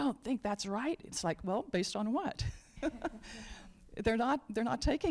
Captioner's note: laughs